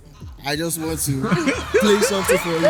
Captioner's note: laughs